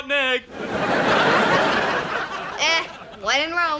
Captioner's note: audience laughing